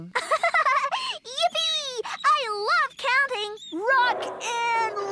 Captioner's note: giggles